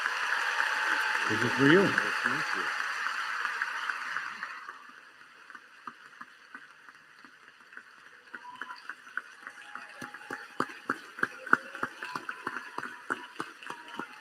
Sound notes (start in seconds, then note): 3.0 applause